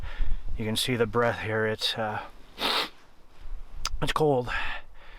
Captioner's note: sniffles